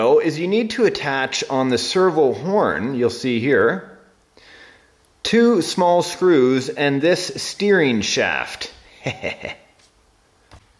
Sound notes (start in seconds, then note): 8.9 laughs